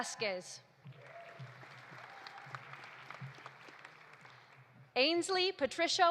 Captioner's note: audience applauding; audience cheering